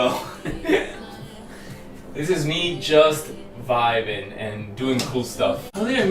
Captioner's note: laughs